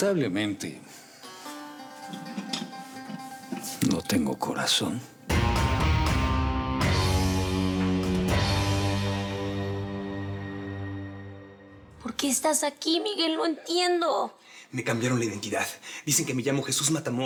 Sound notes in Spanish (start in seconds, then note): 12.3 Sollozos